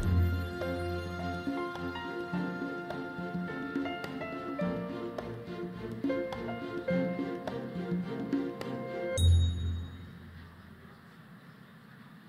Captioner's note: applause